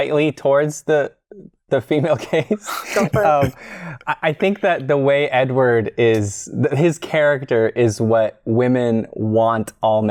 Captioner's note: chuckles